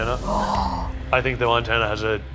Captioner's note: gasping